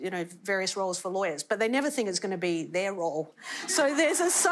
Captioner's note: laughter